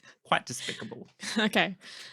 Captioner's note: laughing